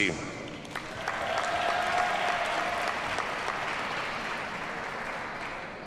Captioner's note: audience cheers and applauds